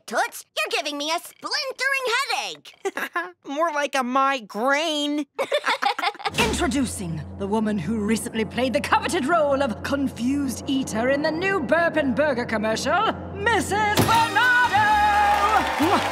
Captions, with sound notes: You're giving me a splintering headache. [chuckles] More like a mi-grain. [laughing] Introducing... the woman who recently played the coveted role of Confused Eater in the new Burpin' Burger commercial... Mrs. Bernardo!